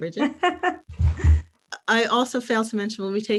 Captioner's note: laughing